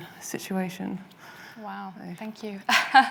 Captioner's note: chuckles